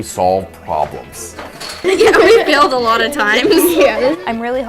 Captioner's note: laughter